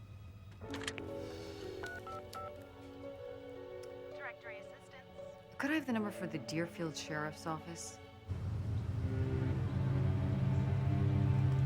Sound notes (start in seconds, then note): 1.8 phone beeping; 8.3 truck idling